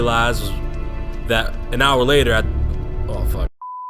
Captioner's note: stumblin on words